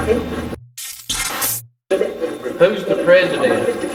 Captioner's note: electronic effect